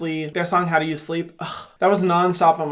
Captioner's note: gasps